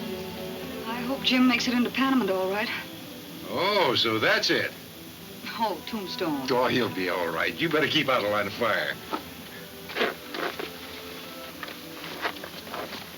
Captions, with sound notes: - I hope Jim makes it into Panamint all right. - Oh, so that's it. - Oh, Tombstone. - Oh, he'll be all right. You better keep out of the line of fire. (ropes tightening)